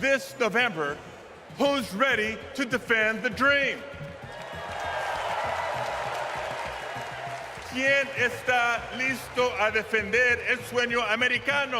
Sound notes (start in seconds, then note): 4.0 audience cheers; 8.1 speaks foreign language